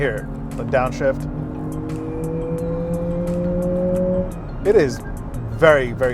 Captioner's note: car engine revving